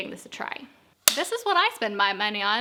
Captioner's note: clapboard claps